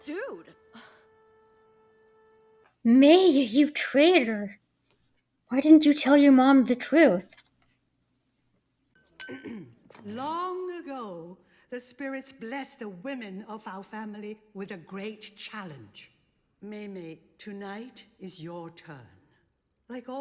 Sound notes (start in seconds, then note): 9.3 clears throat